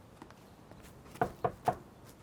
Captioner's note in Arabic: يطرق الباب